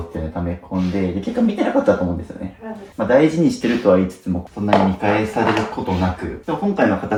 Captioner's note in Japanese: 鼻息